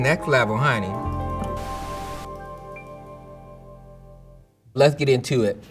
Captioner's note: upbeat music ends; screen whooshing